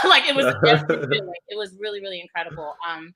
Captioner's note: laughs